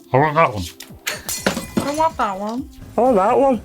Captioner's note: glass breaking